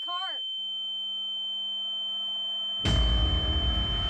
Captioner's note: high pitched tone; dramatic musical score